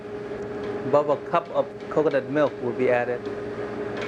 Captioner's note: voiceover